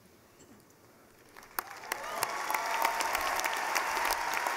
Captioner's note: cheering